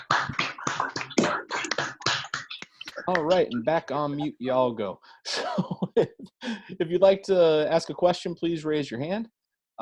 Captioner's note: applause